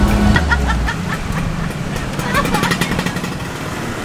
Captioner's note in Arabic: ضحك